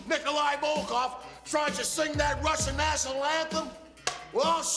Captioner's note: slaps board